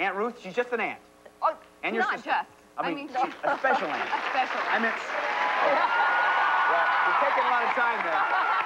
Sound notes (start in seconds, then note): 3.3 laughter